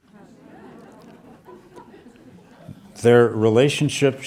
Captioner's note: audience laughing